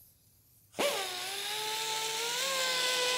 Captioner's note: machine whirring